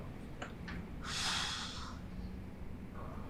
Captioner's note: exhales sharply